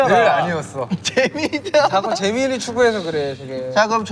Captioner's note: haha